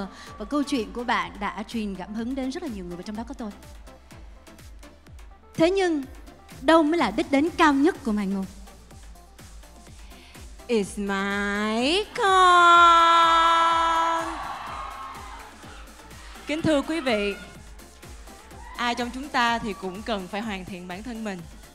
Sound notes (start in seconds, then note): 12.2 bravo from audiences